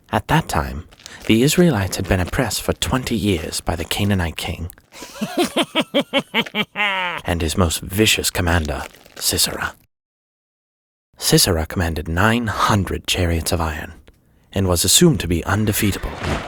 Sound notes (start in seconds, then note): 5.0 king laughing sinisterly